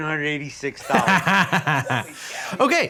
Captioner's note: lawyer laughing